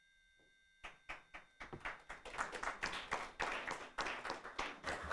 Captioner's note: all applauding